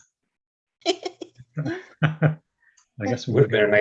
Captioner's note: attendees laughing